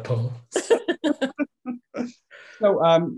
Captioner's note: laughing